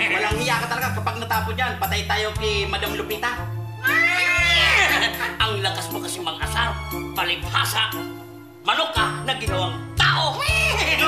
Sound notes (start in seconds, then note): 3.8 cawing; 3.9 neighing